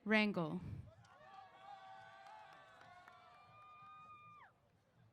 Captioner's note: applause & Cheers